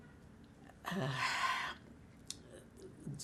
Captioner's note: sighing